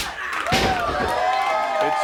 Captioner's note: audience cheering; hand slaps